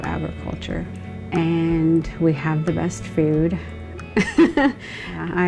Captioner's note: laughing